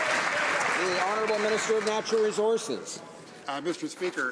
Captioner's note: some Applause